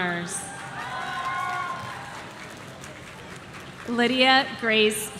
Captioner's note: audience cheering